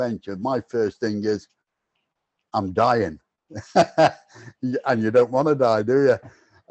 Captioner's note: laughs